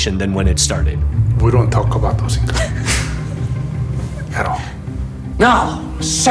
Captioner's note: laughing